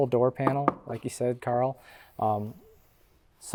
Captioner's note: bangs door